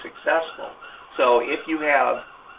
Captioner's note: sirens in the background